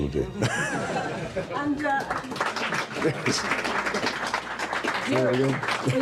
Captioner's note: audience applauding